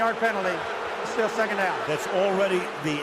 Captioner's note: booing